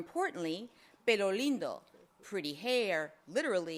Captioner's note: speaks foreign language